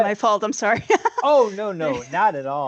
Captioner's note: chuckles